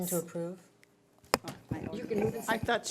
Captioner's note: overlapping chattering